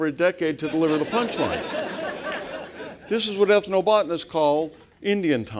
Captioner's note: laugh